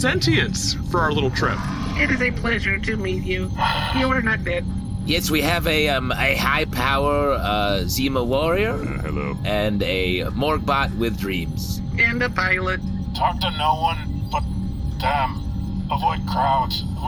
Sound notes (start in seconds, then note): 5.1 Twinkle sighs